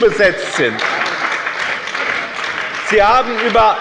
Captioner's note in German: Beifall bei dem BÜNDNIS 90/DIE GRÜNEN und der CDU